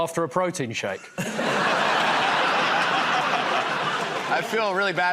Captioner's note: laughter